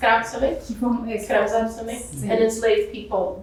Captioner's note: speaking portuguese